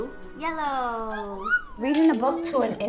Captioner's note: child exclaims